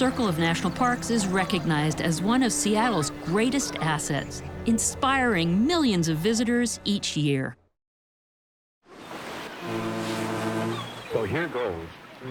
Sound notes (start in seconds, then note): 9.3 boat Horn